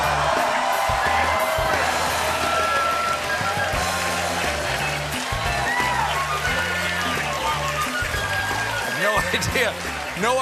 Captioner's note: band playing; cheers and applause